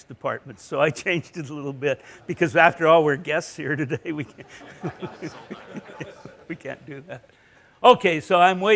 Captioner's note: laughter